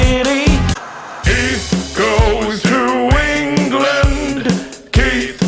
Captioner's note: static crackles